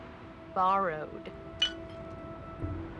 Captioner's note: clink